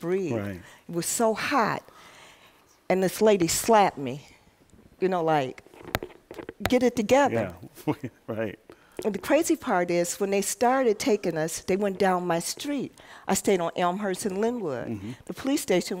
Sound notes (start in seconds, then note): 7.7 laughs